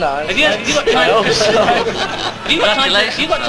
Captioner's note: laughing